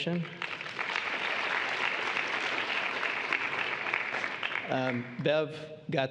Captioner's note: applause